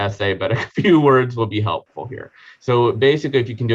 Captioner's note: chuckling